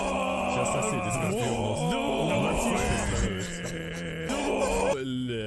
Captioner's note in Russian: стон